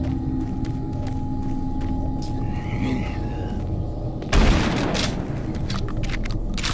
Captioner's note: gun firing; ominous music